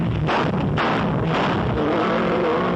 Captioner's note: gunshots